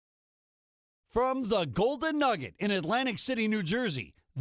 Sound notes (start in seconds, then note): 1.2 voiceover